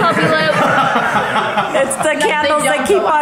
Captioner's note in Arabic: ضحك